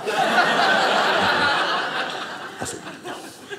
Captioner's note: audience laughing